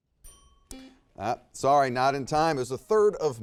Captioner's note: buzzer beeps